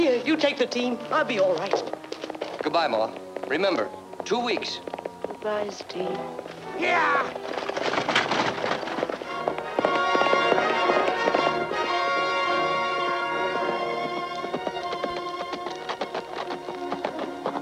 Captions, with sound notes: - Yeah, you take the team, I'll be all right. - Goodbye, Ma. Remember, two weeks. - Goodbye, Steve. (suspenseful music) (horse galloping)